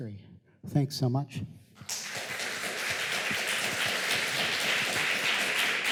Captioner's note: applause